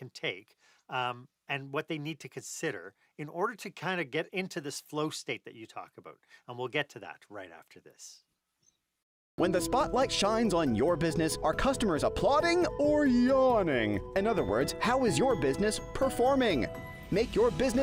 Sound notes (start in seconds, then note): 9.2 voiceover